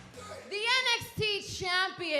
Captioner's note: crowd cheering